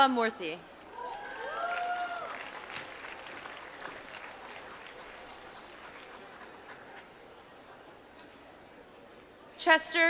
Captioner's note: applause